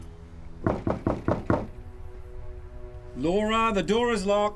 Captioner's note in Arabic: طرق الباب